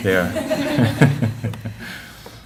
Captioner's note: laughter